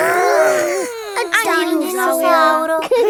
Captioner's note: growls